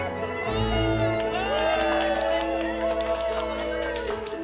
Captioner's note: clapping and cheering